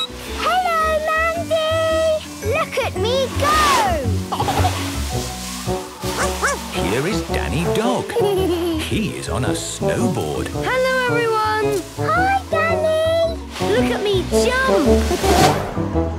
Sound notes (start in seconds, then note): 0.0 squeaking; 4.3 giggling; 6.1 barking; 7.8 laughing; 15.1 laughing